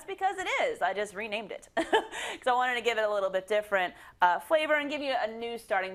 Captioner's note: laugh